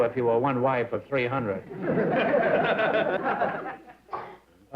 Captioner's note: laughter